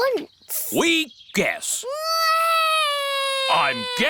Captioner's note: alexander wails